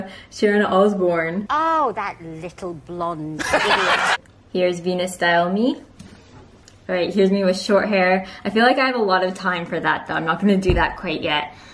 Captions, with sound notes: Sharon Osbourne. "Oh, that little blonde idiot" *Crowd laughs* There's Venus-style me! Alright, here's me with short hair I feel like I have a lot of time for that I'm not going to do that quite yet.